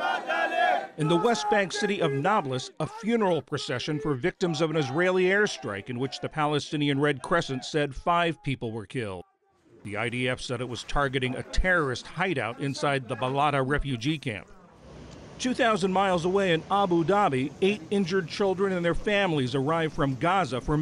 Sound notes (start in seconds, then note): 1.3 voice-over